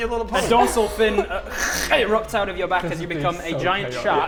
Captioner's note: kkrch